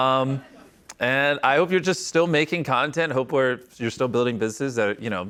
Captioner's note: none